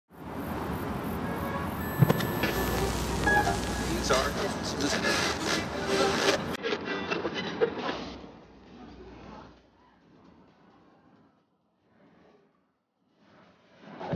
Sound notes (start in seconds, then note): 1.8 radio stations change; 5.1 static plays